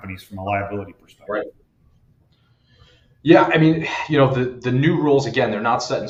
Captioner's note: sighs